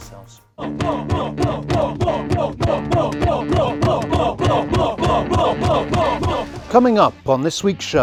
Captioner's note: excited chanting